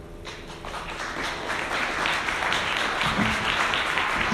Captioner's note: audience applauding